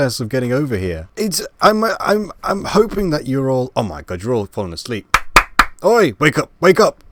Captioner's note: clapping